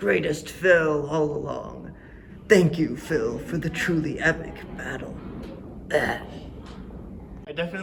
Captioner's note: death sounds